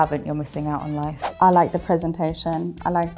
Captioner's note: screen swooshes